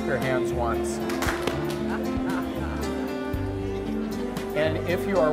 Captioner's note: attendees clap